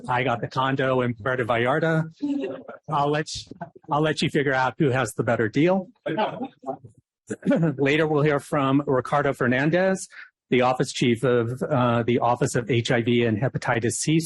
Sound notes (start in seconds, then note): 7.3 laughter